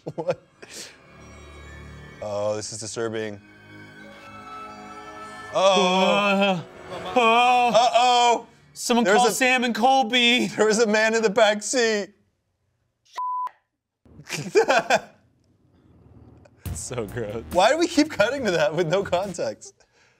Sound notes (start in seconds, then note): 1.0 ominous music; 13.1 beep; 14.2 laugh